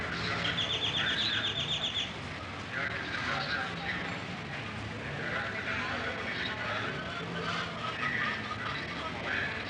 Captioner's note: street Sounds